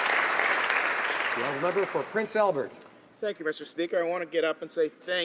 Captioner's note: applause